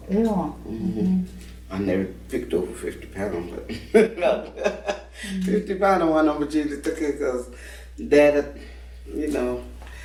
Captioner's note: laughing